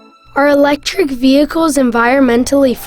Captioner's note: voiceover